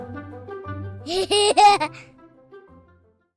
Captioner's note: laugh